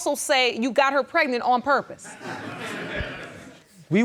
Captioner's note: audience chuckling